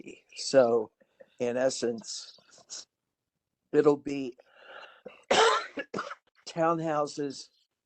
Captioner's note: cough